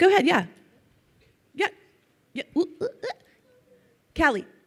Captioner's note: vocalizes